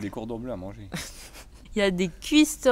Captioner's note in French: Rire